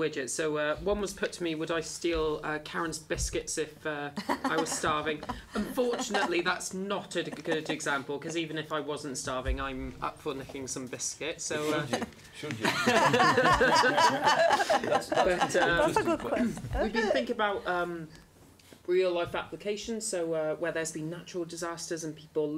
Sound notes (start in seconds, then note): 4.2 laugh; 12.5 laughter